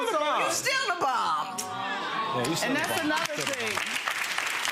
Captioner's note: audience awing; audience clapping